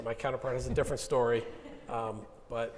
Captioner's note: audience laughing